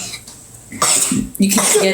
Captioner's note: coughs